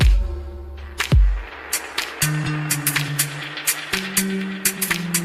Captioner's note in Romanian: Aplauze